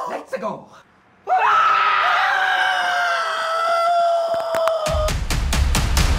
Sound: more screaming

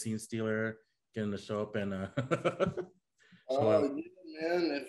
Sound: chuckling

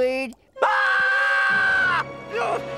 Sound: screaming

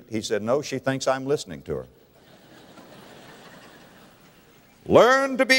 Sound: audience laughter

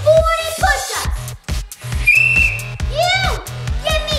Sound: blowing a whistle

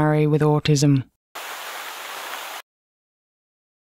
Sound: water running

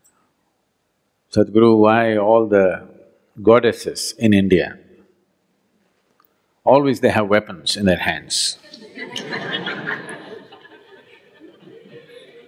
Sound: laughter

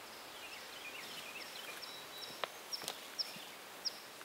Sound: birds trilling

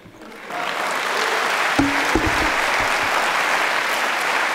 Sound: audience clapping

